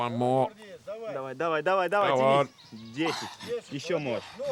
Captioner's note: Russian spoken audio